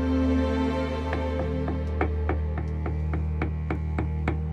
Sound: hammer tapping

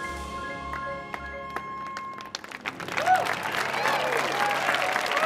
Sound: audience applauding

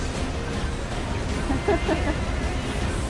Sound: laughs

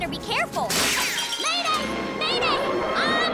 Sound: shattering

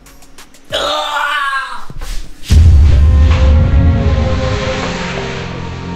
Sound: gagging; somber music

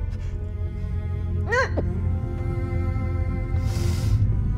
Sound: server crying

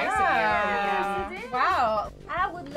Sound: exclaiming

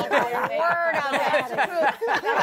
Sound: laughter

